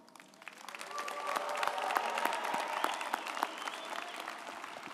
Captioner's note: group applauding